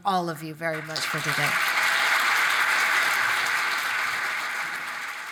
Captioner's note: audience applaud